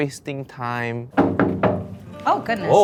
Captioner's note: Uncle Roger knocking on door